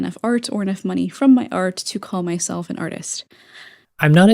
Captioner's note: inhale